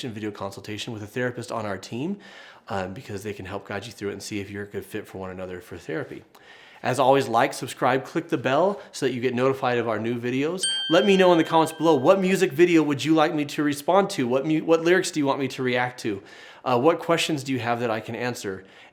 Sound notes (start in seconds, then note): 10.6 bell chimes